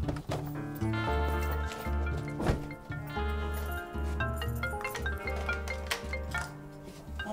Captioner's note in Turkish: Telefon Çalıyor